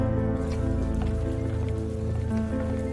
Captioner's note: rain pattering